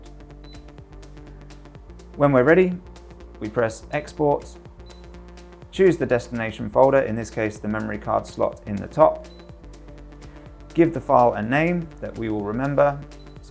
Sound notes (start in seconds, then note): 0.4 screen beeps; 4.8 screen beeps; 9.2 screen beeps; 13.1 screen beeps